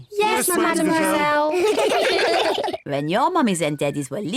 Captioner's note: all laugh